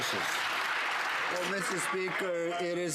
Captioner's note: some Applause